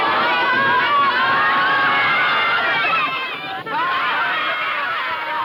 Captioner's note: children yelling